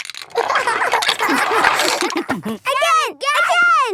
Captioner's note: laughter